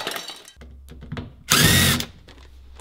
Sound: battery-operated drill

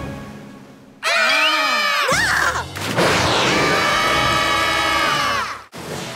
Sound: screaming

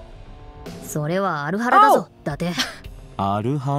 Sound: scoffs

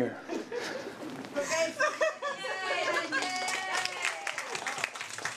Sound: cheers and applause

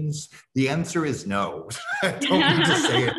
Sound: laughs

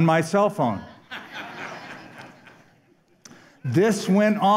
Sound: laughter

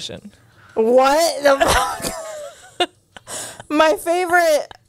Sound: laughs

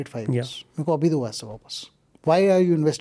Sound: speaks in Hindi

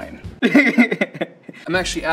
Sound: laughter

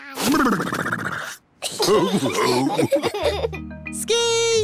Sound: giggles; all laughing

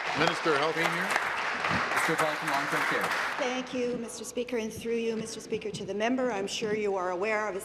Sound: applause

